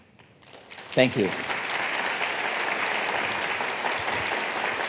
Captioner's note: applause